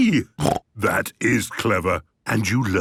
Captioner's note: snort